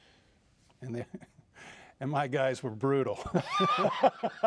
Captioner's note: laughing